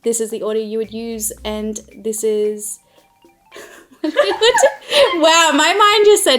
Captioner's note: laughs